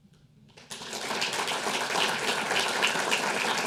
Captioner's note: audience applauding